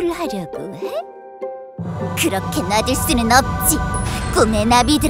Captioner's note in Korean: 샤아악, 화면 효과음